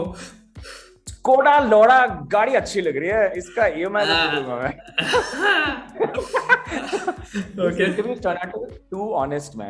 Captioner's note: both are laughing